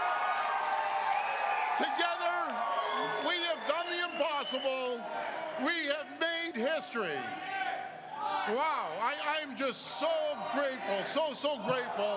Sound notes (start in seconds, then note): 4.0 cheers and Applause